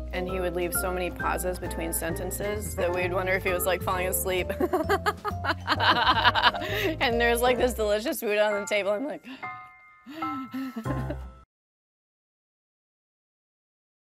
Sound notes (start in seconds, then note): 4.5 laughs; 10.0 breathes heavily